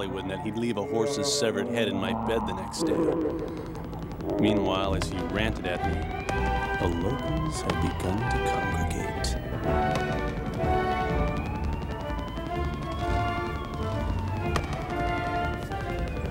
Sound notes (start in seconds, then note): 10.2 instrumental music; 10.2 sirens sounding